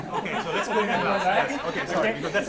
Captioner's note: laughing